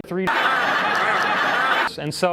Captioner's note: laughter